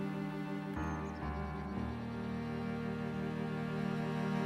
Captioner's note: birds trilling